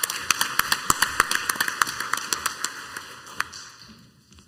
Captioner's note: crowd applauds